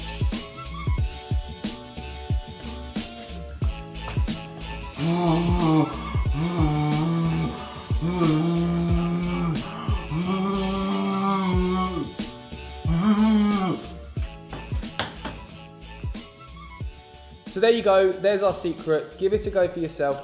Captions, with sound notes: (easygoing lighthearted music) - Woooooo, woooooo! (mimicking hairdryer sound) - So there you go, there's our secret. Give it a go for yourself.